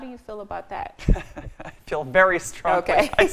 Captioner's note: laughs